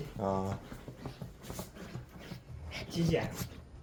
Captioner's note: puppy: Scratching